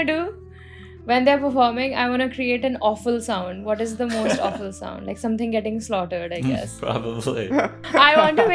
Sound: laughs

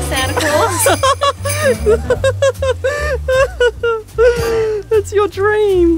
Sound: laughs

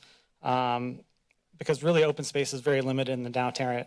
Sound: none

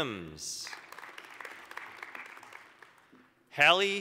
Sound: applause

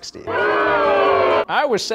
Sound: crowd booing

